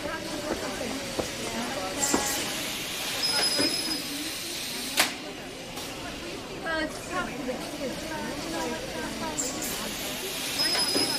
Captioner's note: machines hissing